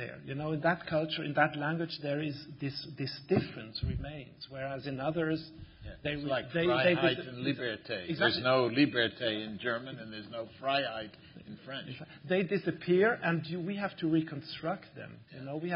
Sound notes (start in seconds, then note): 7.3 german; 7.9 french; 10.8 german